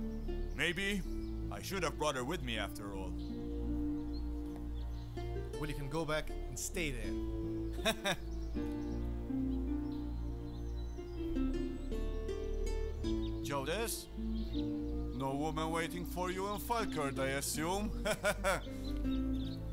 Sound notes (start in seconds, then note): 7.7 chuckling; 17.7 laughing